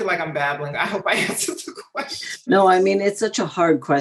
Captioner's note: laughs